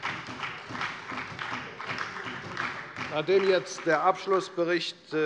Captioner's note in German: Beifall bei der FDP und bei Abgeordneten der SPD